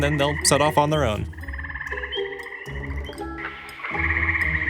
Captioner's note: chittering